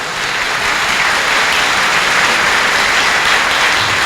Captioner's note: applause